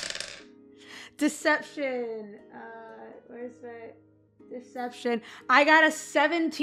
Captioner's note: more dice clacks